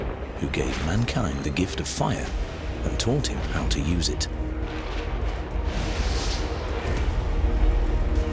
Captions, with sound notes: who gave mankind the gift of fire and taught him how to use it. [sound of thunder]